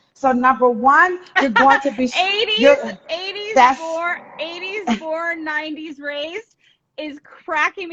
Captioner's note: laughing